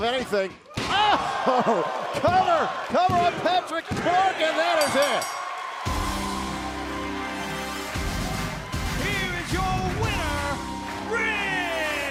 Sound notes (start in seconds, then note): 4.8 bell ringing; 8.3 crowd cheering